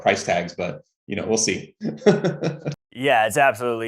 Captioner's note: laughs